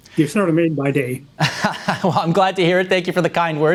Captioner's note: laughs